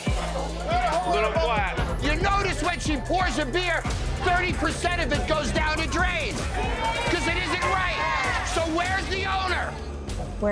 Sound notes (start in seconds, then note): 6.6 crowd cheers